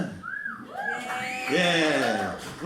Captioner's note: lone whistle; crowd cheers